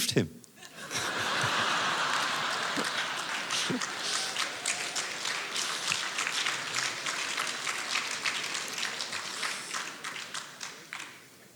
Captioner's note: audience applause